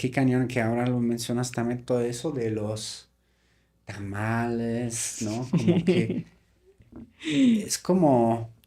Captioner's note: laughs